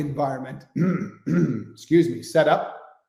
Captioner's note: clears throat